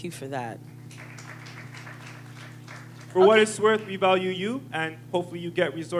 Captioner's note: applause